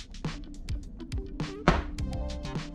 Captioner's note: thump